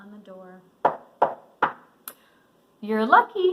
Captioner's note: knocks